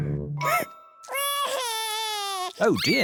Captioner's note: sobs